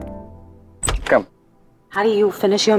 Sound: door opens

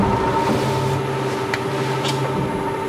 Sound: soft rattling sound

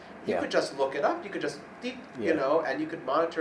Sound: imitating machine beep

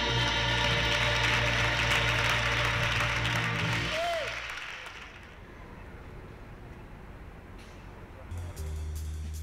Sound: applause

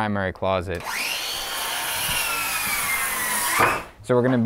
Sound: saw buzzing

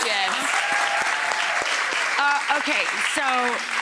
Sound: audience cheering; audience clapping

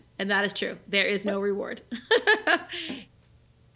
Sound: chuckles

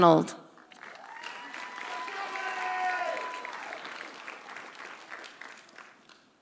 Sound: audience applauding; audience cheering

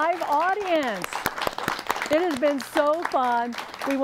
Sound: applause

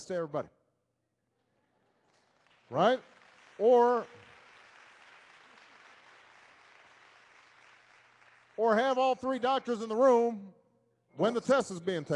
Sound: applause

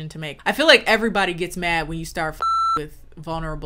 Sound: beep

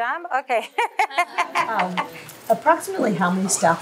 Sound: laughs

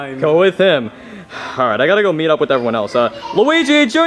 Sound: sighs

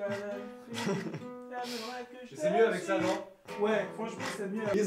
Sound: untranslatable conversations in French on the background

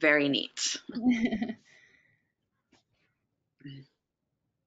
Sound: laughs

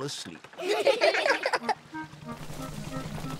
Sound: all giggle

